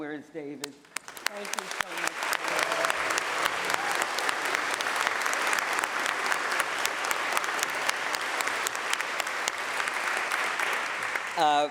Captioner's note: applause